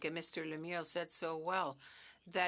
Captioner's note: speaking French